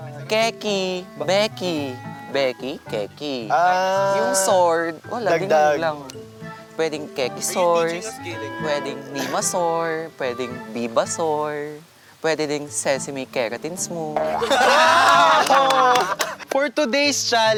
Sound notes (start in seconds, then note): 14.2 campers laughing